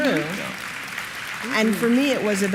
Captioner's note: applause